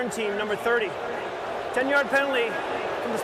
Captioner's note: booing